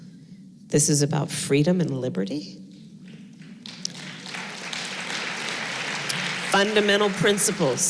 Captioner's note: applause